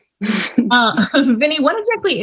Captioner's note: laughs